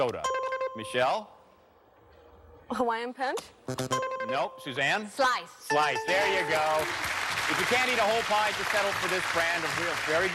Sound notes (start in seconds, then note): 0.2 buzzer rings; 3.7 bell buzzes; 3.8 buzzer rings; 5.7 bell rings